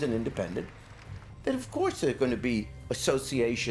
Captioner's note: crowd cheering